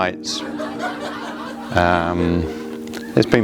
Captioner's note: people laughing